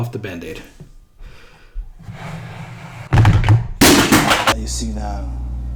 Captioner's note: crash